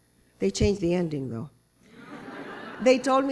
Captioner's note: laughter